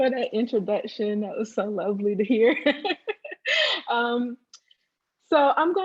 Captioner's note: laughs